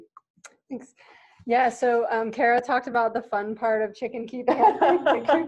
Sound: laughing

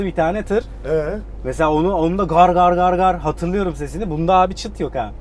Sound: sound of truck

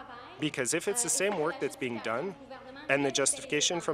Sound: speaking in French

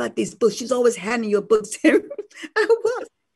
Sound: laughs

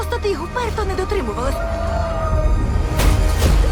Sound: cheering

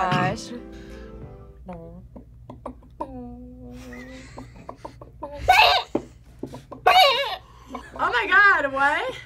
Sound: clucks

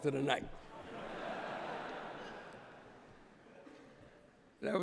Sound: laughter

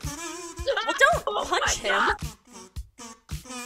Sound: screams

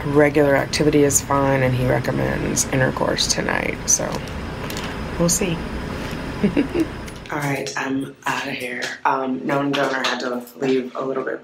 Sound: giggles

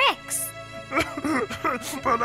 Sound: sobbing

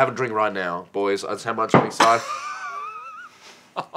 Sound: laughter

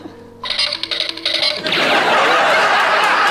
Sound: bongo run – cartoony running sound effect

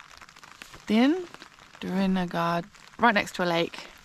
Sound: terrible attempt at Welsh

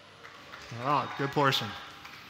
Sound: applause

